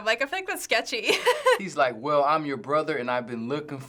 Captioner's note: laughs